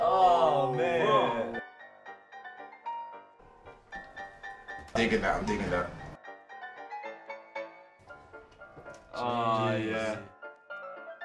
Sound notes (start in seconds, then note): 0.0 playful piano music; 3.2 playful piano music; 5.5 murmuring